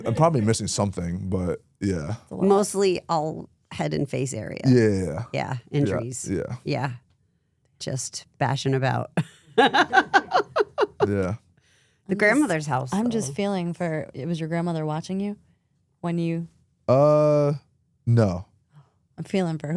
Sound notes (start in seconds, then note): 9.6 laughs